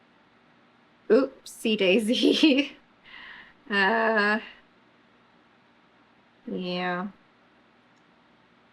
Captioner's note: laughs